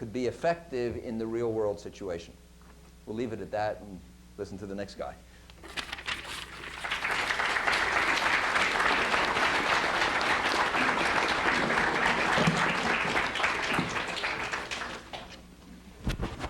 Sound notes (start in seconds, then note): 6.7 applause